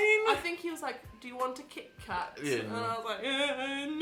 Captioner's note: crying